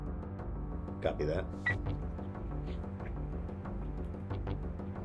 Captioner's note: radio static buzzes; radio beeps